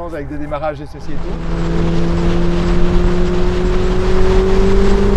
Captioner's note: engine roaring